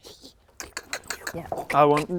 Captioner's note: clink clink clink clink clink